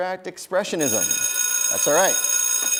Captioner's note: bell rings